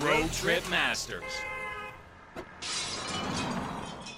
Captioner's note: breaking glass